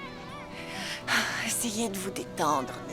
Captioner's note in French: soupirs